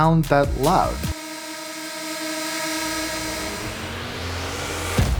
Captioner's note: drone humming; upbeat music